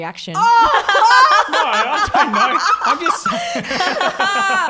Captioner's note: all laugh